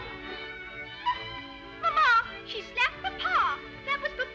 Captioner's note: all laughing; gasping